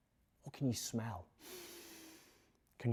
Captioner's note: inhales